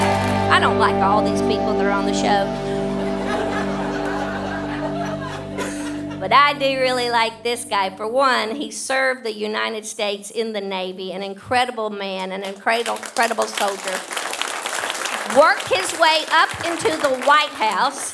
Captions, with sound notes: I don't like all these people that are on the show. (audience laughing) But I do really like this guy. For one, he served the United States in the Navy, an incredible man, an incredible soldier. Worked his way up into the White House.